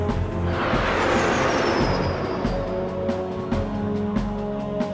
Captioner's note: plane roaring